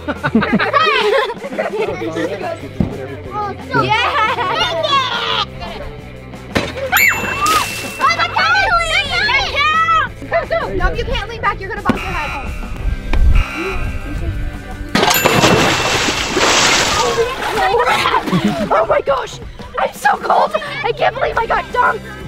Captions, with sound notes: Hahahaha! Dang it! [Chime] Ahh! Oh that counted! That counts! [Buzzer] [Chime] Oh my gosh! I'm so cold! I can't believe I got dunked!